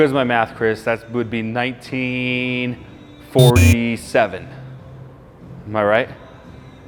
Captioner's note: buzzer rings